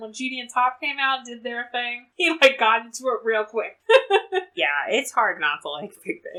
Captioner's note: laughs